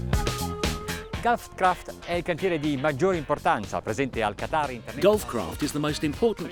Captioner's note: speaks in foreign language